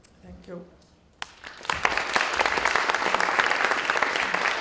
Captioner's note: applause